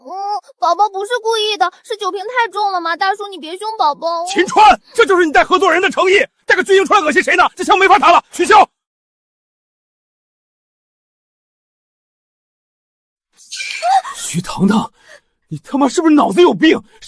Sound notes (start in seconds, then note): 13.5 cries out